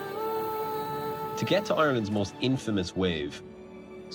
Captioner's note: voice-over